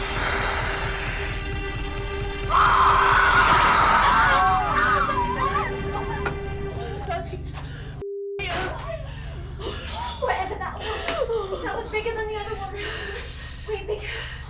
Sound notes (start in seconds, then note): 0.0 spider hissing; 2.4 Shauna screaming; 4.9 women screaming